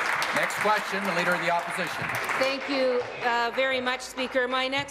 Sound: applause

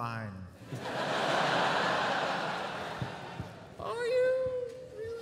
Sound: laughter

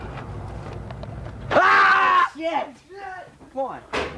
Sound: screaming

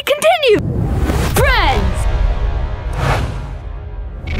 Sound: voiceover

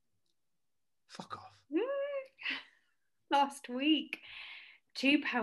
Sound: whisper

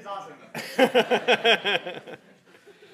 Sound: laugh

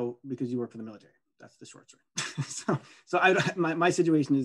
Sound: laughing

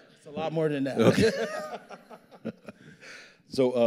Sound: both laughing

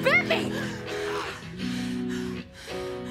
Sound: breathing heavily

